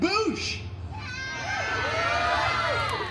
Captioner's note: guests cheering